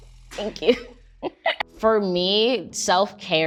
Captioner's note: Amanda laughs